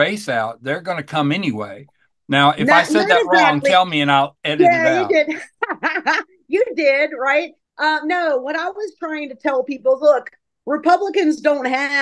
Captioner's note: laughs